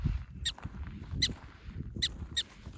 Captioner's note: prairie dog squeaking